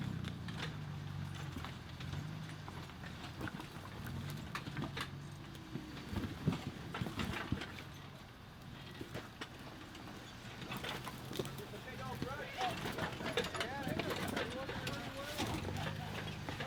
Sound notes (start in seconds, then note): 3.6 engine revving